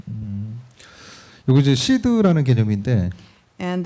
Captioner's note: speaking korean